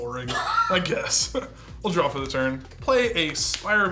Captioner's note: laughs